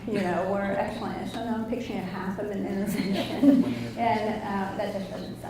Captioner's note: laughs